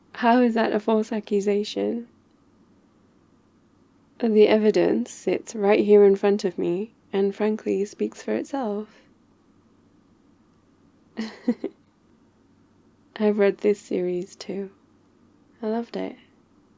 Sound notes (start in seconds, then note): 11.2 laughs